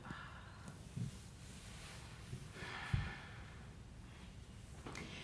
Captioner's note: exhale; deep exhale